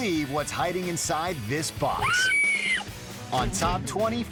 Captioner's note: woman screaming